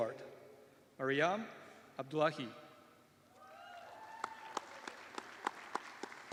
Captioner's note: applause